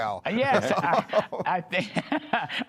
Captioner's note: laughter